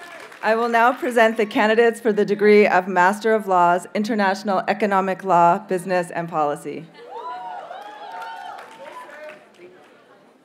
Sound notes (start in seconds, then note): 0.0 audience cheers and applauds; 7.0 audience members cheer; 7.0 audience cheers and applauds